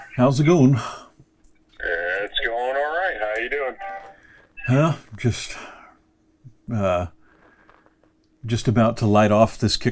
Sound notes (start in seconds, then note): 1.8 voice On Phone